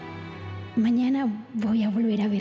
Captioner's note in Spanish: Voz de la joven